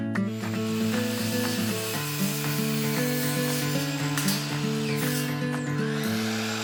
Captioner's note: wood sawing; upbeat music